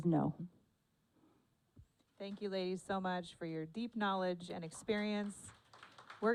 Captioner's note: applause